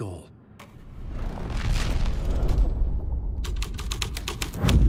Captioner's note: keyboard clacking